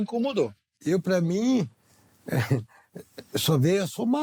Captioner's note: laughs